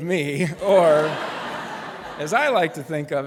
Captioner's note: laughter